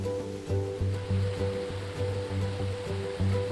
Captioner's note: water rushing